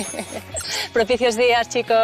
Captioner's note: laughs